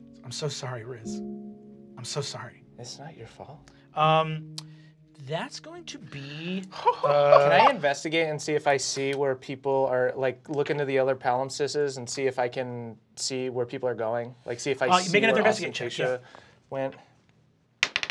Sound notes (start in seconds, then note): 6.7 laughs helplessly; 17.9 die clatters